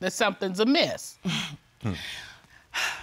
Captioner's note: scoffs; sighs